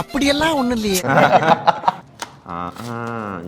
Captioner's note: laughs